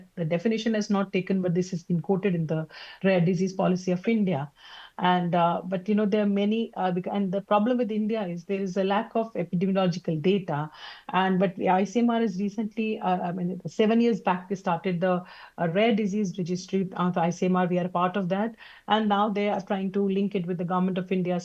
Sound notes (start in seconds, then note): none